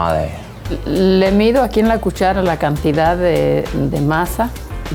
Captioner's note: speaks in Spanish